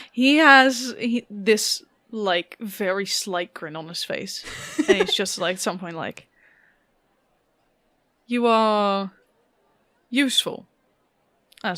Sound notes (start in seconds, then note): 4.4 laughs